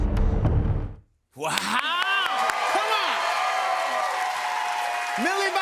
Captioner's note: cheers and applause